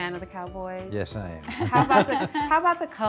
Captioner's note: group laughs